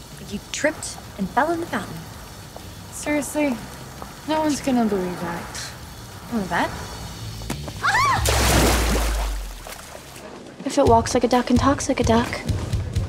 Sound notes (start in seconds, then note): 7.8 Serena screams; 8.6 water splashes